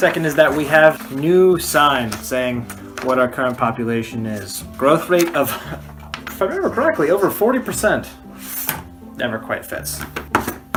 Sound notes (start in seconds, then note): 6.0 drops paper in jar